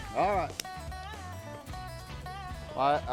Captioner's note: hands slapping